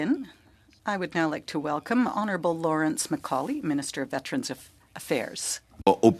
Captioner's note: speaking French